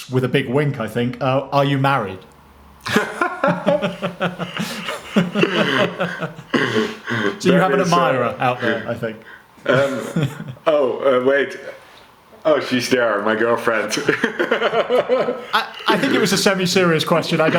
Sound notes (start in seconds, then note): 2.8 laughs; 13.7 laughs